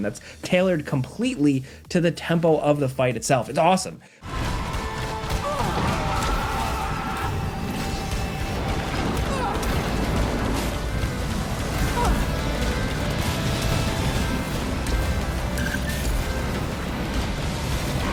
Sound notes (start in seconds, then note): 5.0 grunting; 5.0 upbeat music